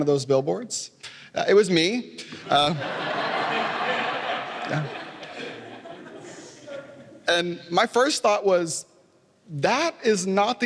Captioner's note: laughter